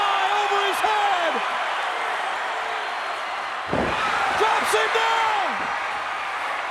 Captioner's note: applause